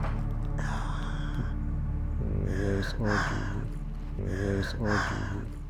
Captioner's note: deep sigh